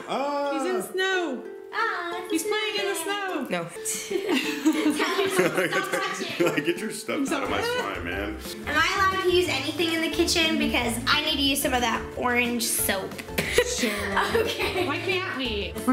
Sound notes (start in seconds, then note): 4.2 everybody laughing; 6.6 laughs; 13.4 laughs